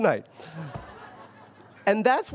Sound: audience laughs

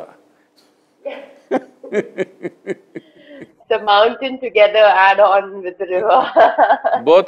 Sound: both laugh; both laugh

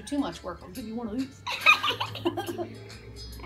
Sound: laughing

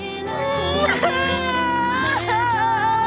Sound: loudly crying

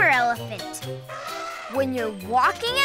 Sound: elephant trumpeting

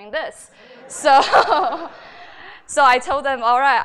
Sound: laughter

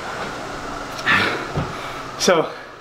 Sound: breathing heavily

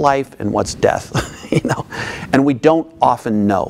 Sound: laughing

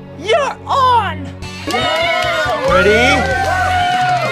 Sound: all cheering

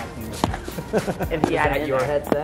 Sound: laughs

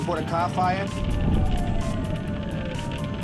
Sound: sirens

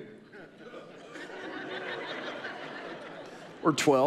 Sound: audience laughing

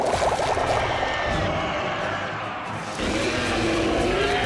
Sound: screeching

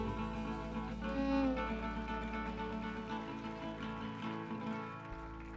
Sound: audience applauding

